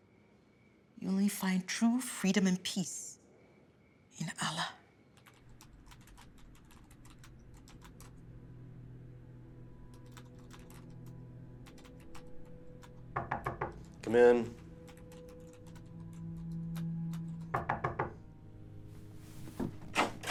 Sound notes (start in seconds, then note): 5.2 keyboard clacking; 13.1 knocking on door; 17.5 knocking on door